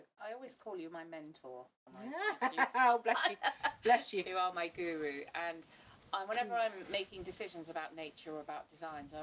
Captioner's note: laughs